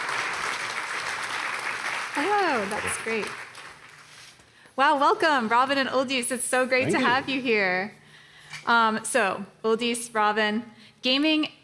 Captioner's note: applause